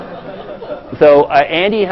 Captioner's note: laugh